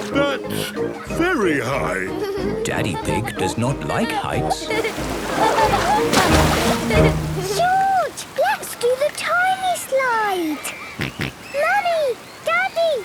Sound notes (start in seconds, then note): 4.6 laughing; 10.7 George snorts